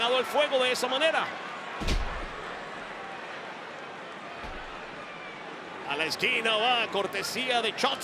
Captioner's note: applause